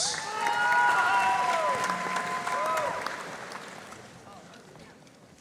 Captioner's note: audience cheering and applauding